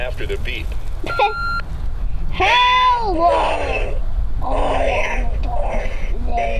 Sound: laughs

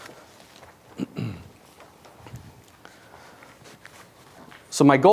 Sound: clears throat

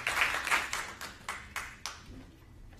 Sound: applause

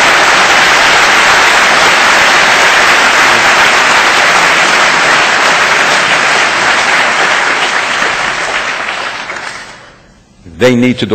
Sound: audience applause

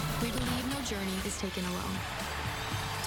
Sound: crowd cheering

